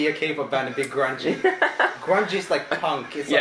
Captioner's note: laughs